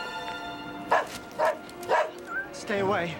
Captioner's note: barking